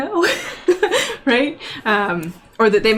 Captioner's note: laughs